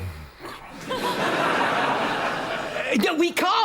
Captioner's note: both groan